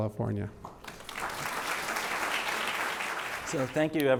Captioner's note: audience applauds